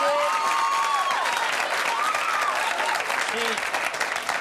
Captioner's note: cheering